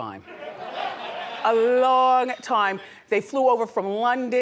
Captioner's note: audience laughs